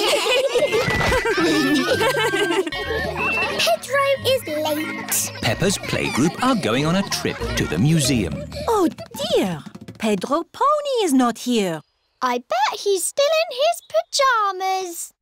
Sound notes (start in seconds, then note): 0.0 laughter; 2.7 kids giggling